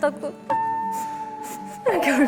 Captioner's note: sobbing